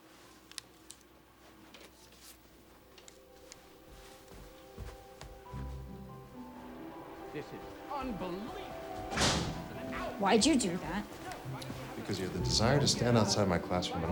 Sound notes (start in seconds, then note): 3.4 gentle music; 9.0 door slams